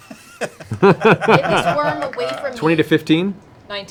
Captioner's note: laughter